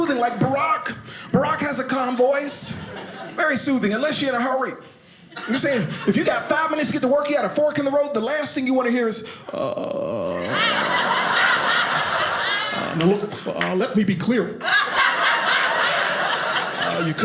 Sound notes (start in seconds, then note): 9.1 imitating Barak Obama speaking; 10.2 audience laughing